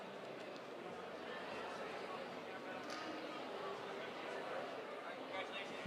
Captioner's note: attendees chattering